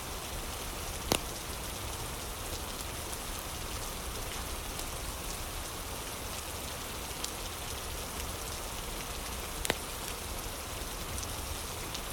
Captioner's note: fire crackling